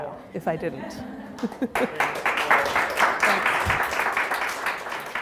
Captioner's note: audience applause